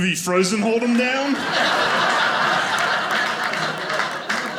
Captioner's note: audience laughing